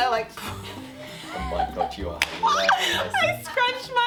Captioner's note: laughing